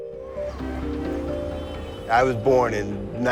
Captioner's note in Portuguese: Som de tráfego